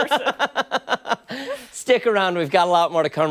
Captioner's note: laughter